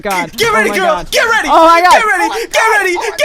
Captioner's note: cry